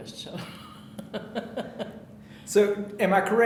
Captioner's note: chuckling